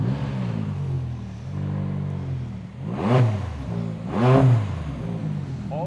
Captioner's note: car motor revving